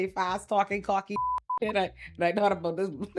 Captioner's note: beep